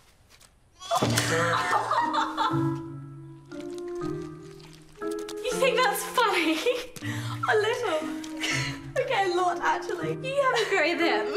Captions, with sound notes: [laughs] You think that's funny? A little. Okay, a lot actually.